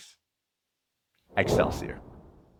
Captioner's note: whoosh